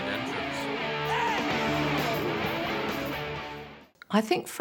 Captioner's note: crowd cheers